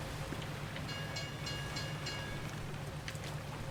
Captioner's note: boat bell